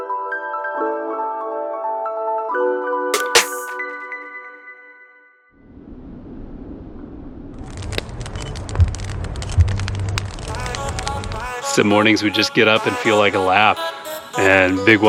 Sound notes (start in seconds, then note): 5.6 wind; 7.8 fire crackling